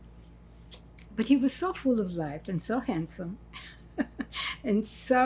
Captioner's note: laughing